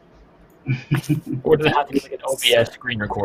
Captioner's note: laughs